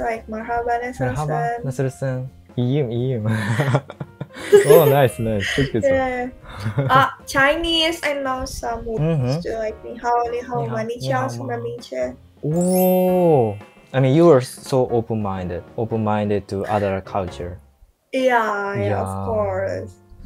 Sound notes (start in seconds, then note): 0.2 Turkish